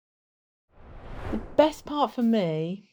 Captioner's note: screen swooshing